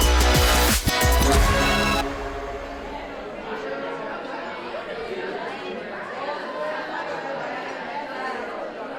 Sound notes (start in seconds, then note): 0.0 energetic music; 3.7 contestants chattering